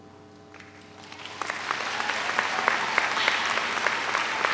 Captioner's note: audience applauds